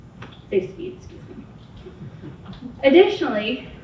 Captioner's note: audience members chuckle